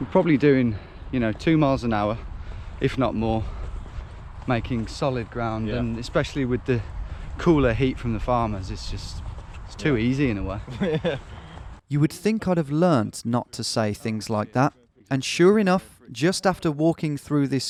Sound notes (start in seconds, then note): 10.6 laughs